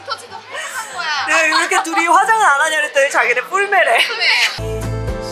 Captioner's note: laughing